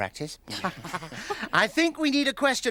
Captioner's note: laughing